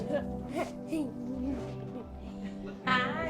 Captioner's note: child laughing